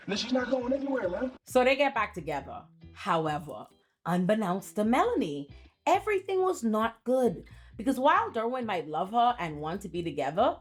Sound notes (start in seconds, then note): none